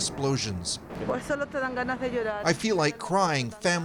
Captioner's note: speaking Spanish